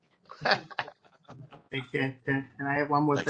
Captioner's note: laugh